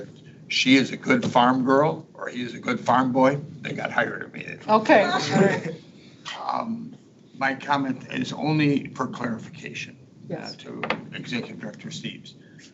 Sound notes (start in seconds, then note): 5.0 board members laughing